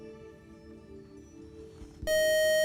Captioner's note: beeping